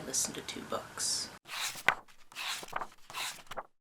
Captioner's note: pages turning